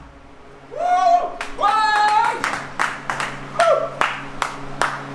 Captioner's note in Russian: аплодисменты